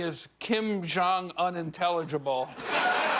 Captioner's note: laughter; cheers and applause